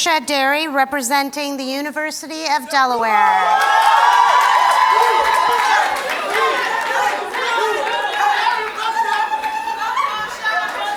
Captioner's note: cheers and Applause